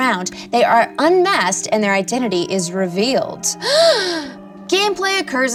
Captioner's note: gasps